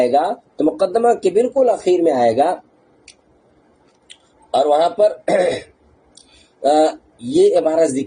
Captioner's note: clears throat